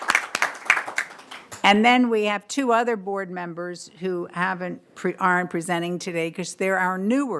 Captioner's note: applause